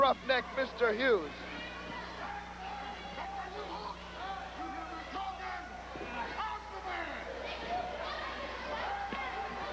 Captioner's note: crowd chatter